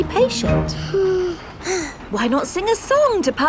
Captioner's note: both sigh